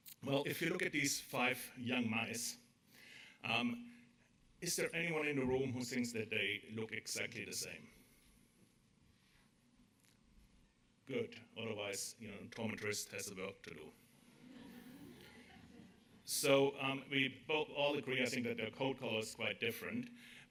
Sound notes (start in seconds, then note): 14.4 audience laughter